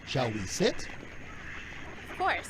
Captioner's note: quacking sounds